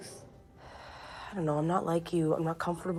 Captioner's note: sighing